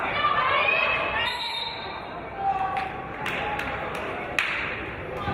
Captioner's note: referee's whistle